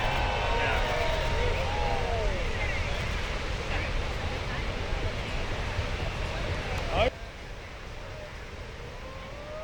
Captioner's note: applause